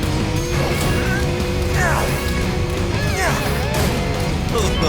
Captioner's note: grunting; chuckling